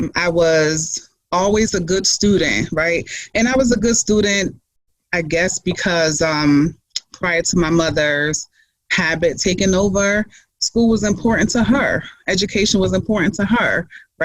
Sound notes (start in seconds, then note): none